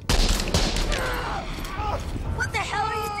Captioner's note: gun shooting and man groaning